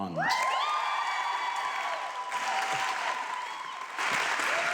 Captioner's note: audience clapping